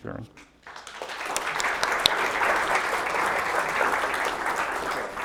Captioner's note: applause